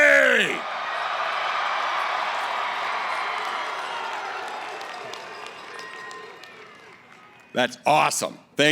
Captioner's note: cheering